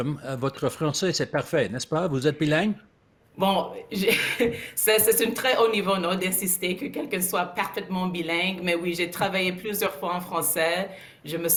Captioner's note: speaking in French